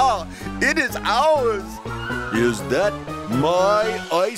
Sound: yells

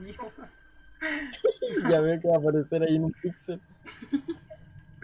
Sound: weird laugh

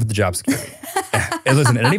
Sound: laughing

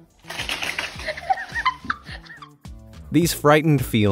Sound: cat scurrying; woman laughing

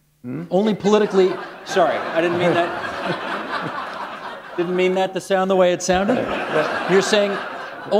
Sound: laughter

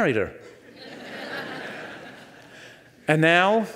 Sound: audience laughs

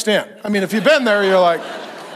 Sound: congregation laughs

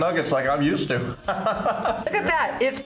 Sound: laughs

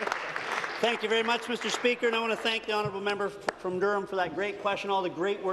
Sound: applause

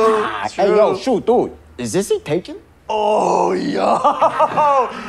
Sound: laughing

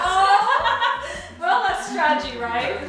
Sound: girls laughing

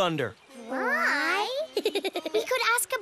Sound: giggles

